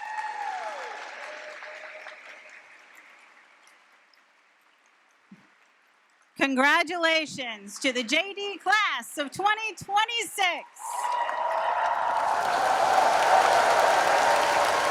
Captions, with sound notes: Congratulations to the JD class of 2026! [APPLAUSE AND CHEERING]